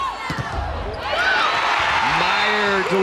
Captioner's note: players yelling; crowd and players cheering